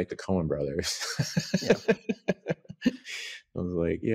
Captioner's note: laughs